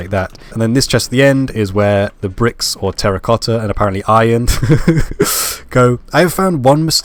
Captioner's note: laugh